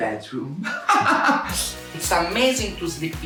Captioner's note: laughing